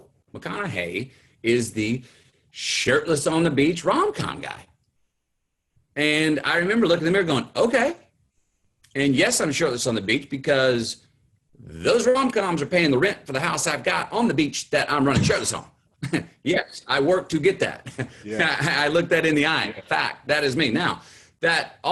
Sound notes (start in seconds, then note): 15.9 chuckles